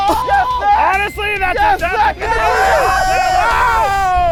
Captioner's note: group cheers